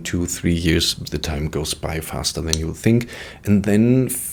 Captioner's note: snaps fingers